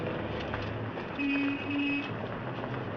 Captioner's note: horn Honks